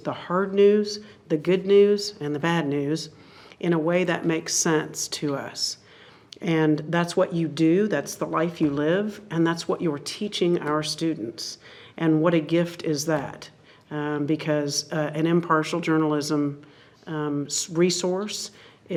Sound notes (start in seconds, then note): none